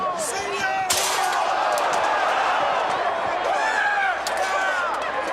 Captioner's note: audience cheers